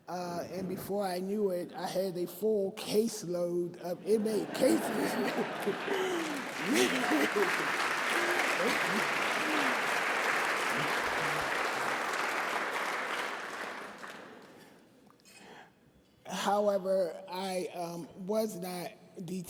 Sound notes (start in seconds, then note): 5.5 laughter and Applause